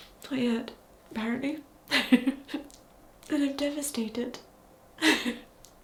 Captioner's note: chuckles